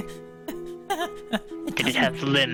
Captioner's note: whimpers in fear